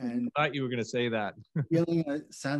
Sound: chuckles

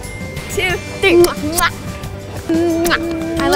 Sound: exaggerated kissing

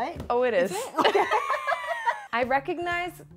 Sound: both laughing

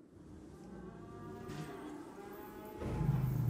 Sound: cows mooing

